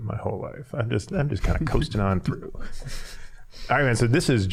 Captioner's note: all chuckling